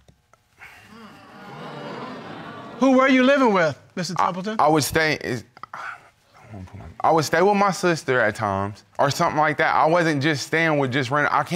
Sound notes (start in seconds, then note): 0.8 audience murmuring; 4.6 stutters